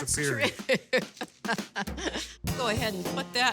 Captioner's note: chuckling